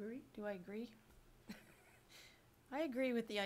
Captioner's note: laughs